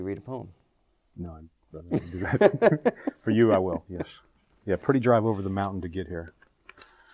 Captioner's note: laughs